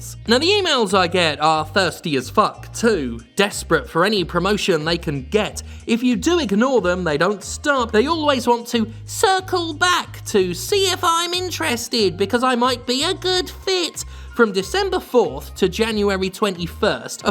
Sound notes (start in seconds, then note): none